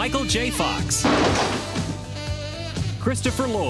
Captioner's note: door crashing